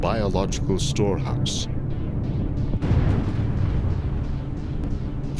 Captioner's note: crashing thunder